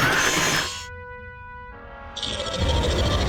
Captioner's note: hooves screeching; metal grinding; growls